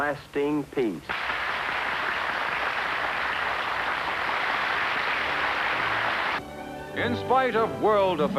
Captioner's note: applause